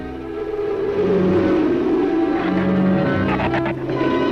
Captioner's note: dark orchestral music; wind howls